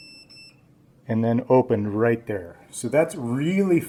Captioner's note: beeping stops